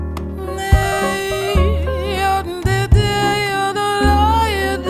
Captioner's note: gentle music continues; vocalizing